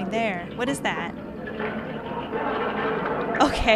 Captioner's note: audience starts laughing